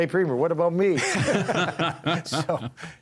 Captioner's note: everyone laughing